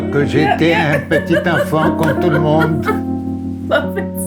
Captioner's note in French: rires